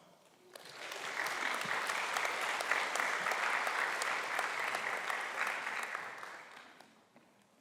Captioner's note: clapping